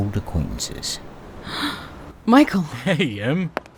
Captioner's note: Emily sighs